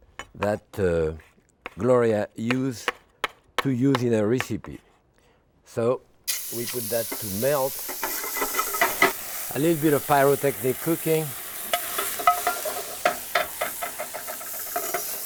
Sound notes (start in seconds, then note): 7.5 pan sizzling; 11.4 pan clattering